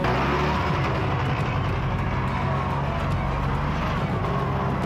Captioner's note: engine revving